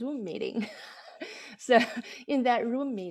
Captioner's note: laughter